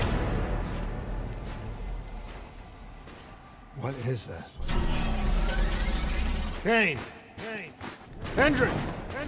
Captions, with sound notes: What is this? Kane? [ECHOING] Hendricks?